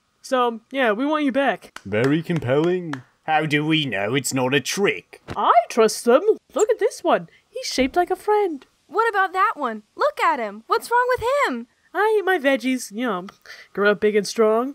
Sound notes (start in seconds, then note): 1.7 clap clap